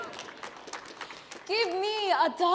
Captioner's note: audience applauding